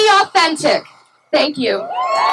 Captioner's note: cheering